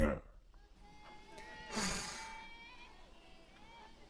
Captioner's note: sigh